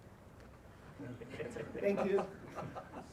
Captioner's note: all laughing